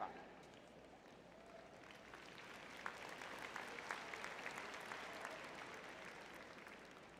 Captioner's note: applause